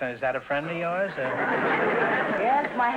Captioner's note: audience laughter